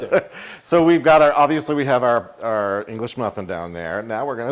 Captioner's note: laugh